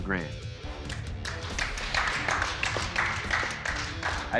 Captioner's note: applause